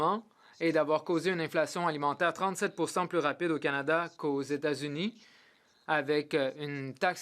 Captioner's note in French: voix de l'interprète